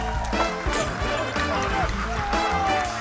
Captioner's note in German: Gluckern